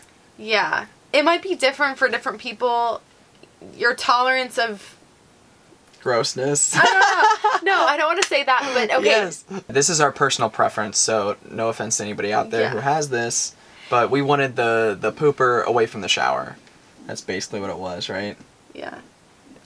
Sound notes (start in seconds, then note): 6.7 laughing